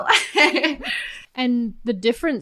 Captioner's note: laughs